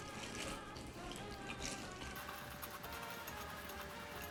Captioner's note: clattering